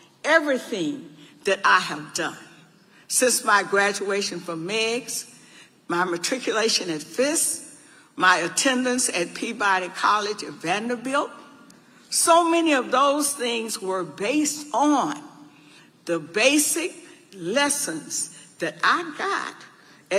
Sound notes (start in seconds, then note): none